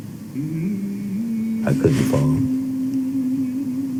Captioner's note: man humming